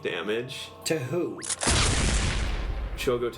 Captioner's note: explosion sound